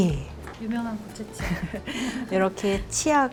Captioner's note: haha